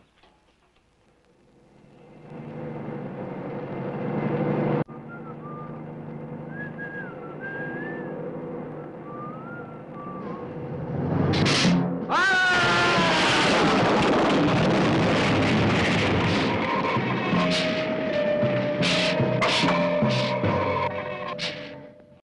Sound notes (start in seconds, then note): 6.4 whistling; 11.4 hissing; 12.1 screaming; 14.7 explosion booming; 17.1 hissing; 17.1 suspenseful orchestral music